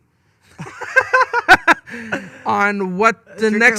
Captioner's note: both laughing